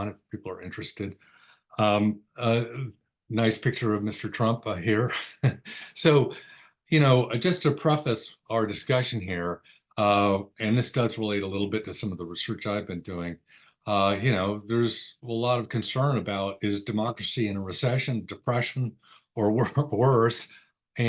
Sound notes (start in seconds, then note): 5.0 chuckles